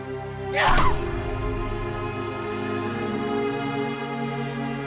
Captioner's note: dramatic orchestral music; Aleks grunting